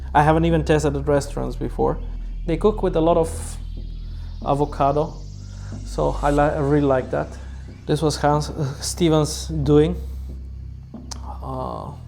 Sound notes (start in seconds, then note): none